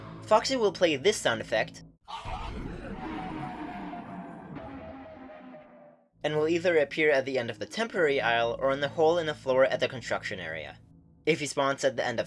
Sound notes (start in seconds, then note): 2.1 descending tone